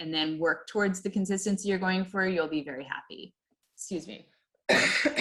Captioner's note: coughs